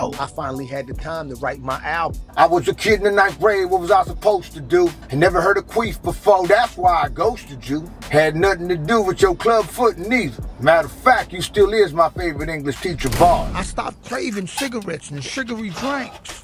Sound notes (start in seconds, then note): 12.7 text bangs